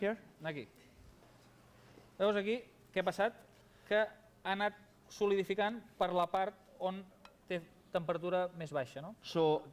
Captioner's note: non-english speech